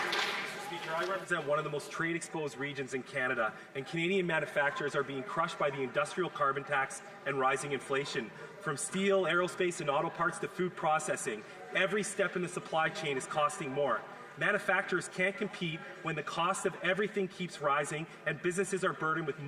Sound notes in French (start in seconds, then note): 6.0 voix de l'interprète